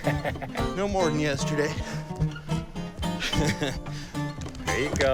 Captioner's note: laughing